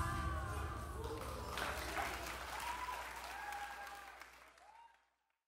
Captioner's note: applause and cheering